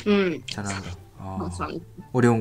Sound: Korean

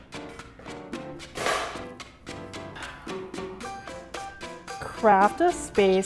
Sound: relaxing music; dinner tray clatters

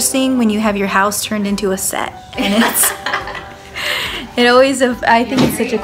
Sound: laughs

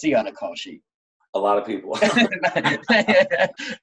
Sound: laughing

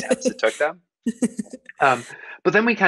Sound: laughing

